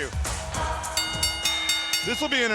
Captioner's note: bell rings